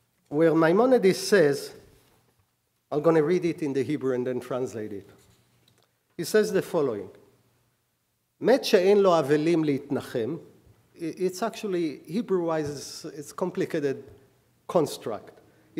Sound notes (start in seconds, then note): 8.2 speaking hebrew